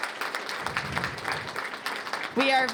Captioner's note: applause